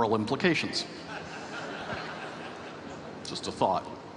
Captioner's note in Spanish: Risas